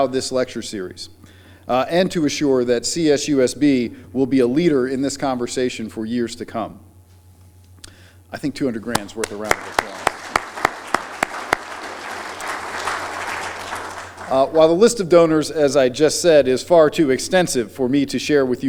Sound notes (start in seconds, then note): 12.5 applause